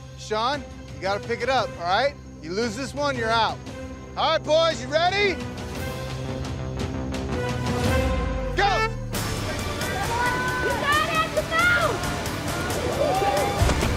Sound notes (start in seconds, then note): 8.8 hooter honks; 9.7 competitors in audience cheering